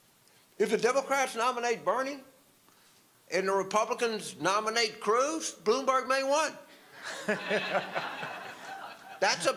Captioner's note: audience laughter